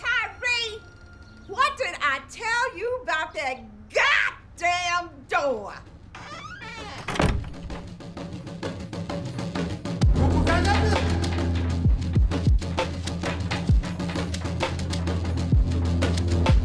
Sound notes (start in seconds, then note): 6.1 door creaks shut; 10.0 upbeat music